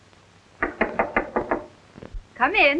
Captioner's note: knocking